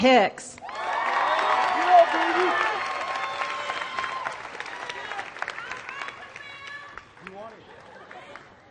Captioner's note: applause